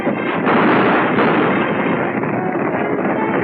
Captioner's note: gunshots